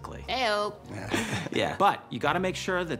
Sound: laughs

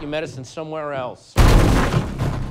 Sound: door bursts open

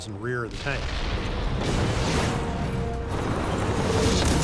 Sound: cannon shots exploding; tanks rumbling

